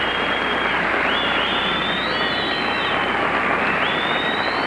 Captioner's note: audience cheering and applauding